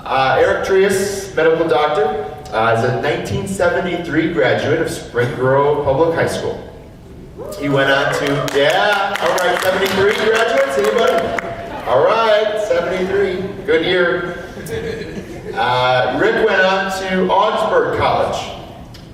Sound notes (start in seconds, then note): 7.8 applause and cheers from crowd